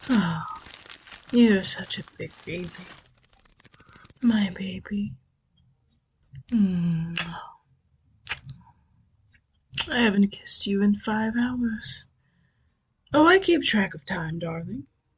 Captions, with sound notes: You're such a big baby. My baby. [kisses] I haven't kissed you in five hours. Oh I keep track of time, darling.